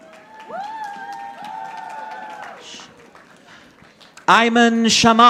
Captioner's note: audience applauding